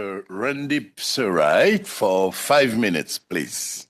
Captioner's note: speaking French